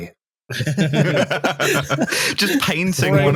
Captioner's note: laughter